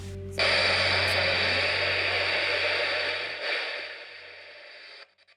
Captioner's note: machine hisses